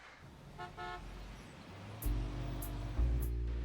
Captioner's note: car horn honking; funky music